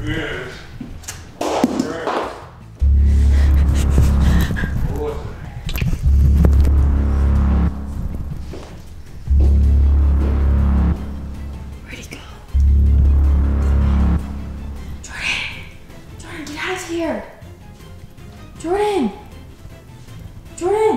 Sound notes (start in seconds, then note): 1.3 tape hitting ground; 3.1 suspenseful music; 6.3 suspenseful music; 8.9 footsteps; 12.3 whispers